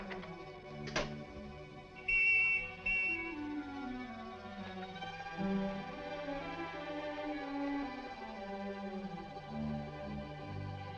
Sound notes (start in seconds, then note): 1.9 police whistle blowing